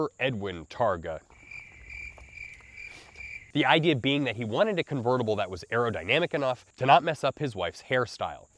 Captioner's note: crickets